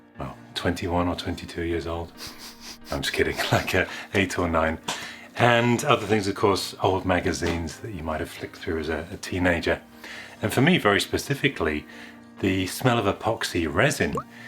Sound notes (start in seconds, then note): 2.1 sniffing; 3.8 laughs